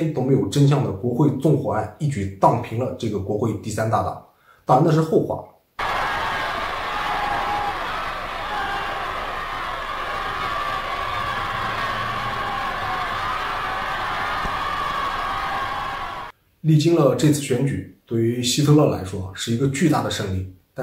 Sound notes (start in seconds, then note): 5.8 cheers